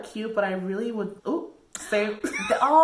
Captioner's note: laughs